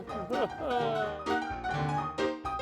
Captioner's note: chuckles; upbeat piano music continues